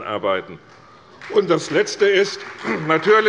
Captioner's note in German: Beifall bei Abgeordneten der CDU